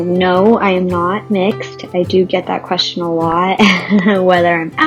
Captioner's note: laughs